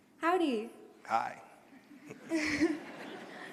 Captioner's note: laughter